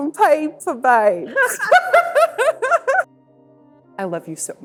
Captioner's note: laughing